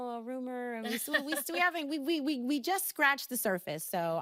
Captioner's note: stammering